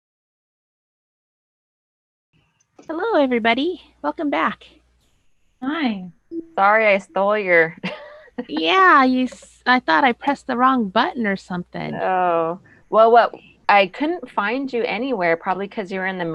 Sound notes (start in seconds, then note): 7.5 laughs